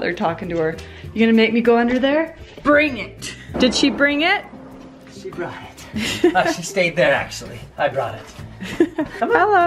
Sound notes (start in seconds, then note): 5.8 laughs; 8.6 laughs